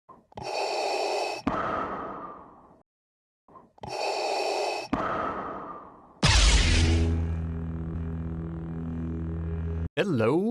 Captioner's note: Darth Vader breathing; Lightsaber ignites